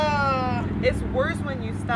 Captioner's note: groaning